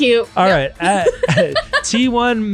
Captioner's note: laughing